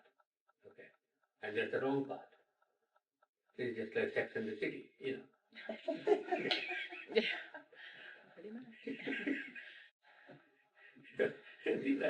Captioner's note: laughter